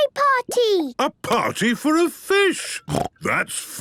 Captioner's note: snorting